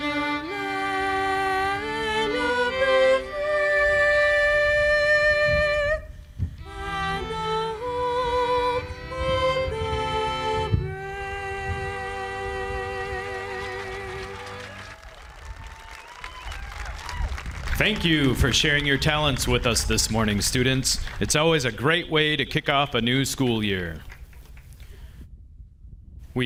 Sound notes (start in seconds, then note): 13.2 audience applauding